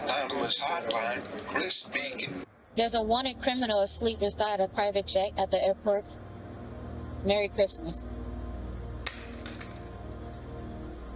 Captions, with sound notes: Anonymous hotline Chris speaking. There's a wanted criminal asleep inside a private jet at the airport. Merry Christmas. [Phone hit ground]